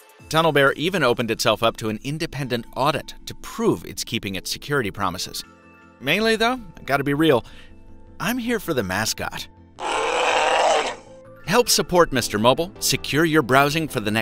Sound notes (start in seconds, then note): 9.8 growl